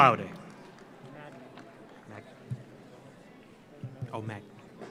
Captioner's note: audience applauds